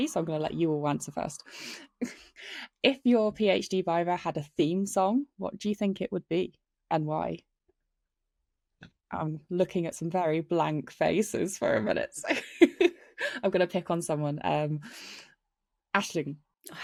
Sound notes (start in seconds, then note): 12.9 laughs